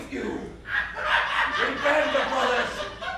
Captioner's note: laughter